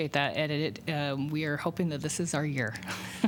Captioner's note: laughter